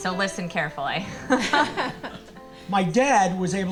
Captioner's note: everybody laughing